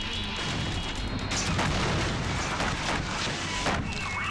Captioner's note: helicopter crashing